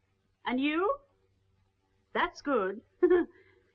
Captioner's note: laughs